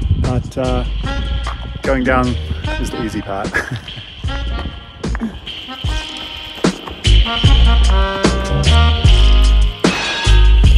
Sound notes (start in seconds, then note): 3.2 laughing; 6.5 upbeat music